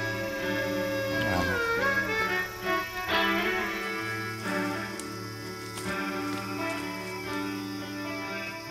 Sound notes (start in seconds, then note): 4.7 various insect noises